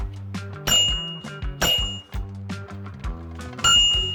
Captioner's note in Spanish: Sonido de campana; Sonido de campana